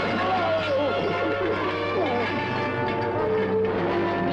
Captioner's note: grunting